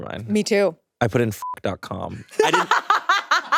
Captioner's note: beeps; laughs